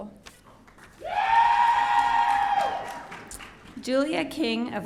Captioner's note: audience cheering